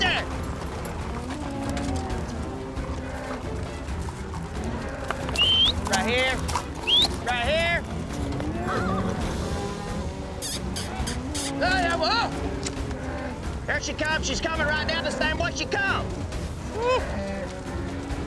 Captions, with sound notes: [CATTLE MOO] [WHISTLES] RIGHT HERE. [WHISTLES] RIGHT HERE! [HORSE NEIGHS] [KISSING SOUND] THERE SHE COMES, SHE'S COMIN' RIGHT THE SAME WAY SHE COME! WHEW.